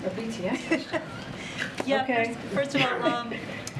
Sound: laughs

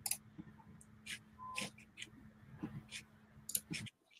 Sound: mouse clicking

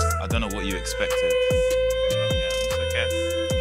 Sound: crying

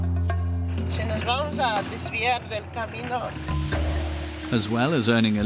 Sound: speaking in foreign language

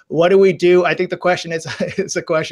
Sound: laughs

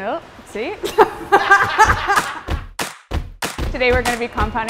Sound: laughing; upbeat music

